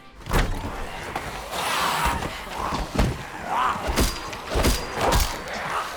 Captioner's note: scuffling